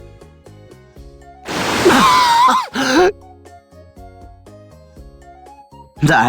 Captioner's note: cough